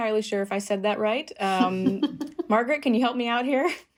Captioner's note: laughter